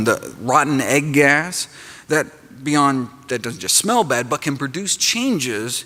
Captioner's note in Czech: none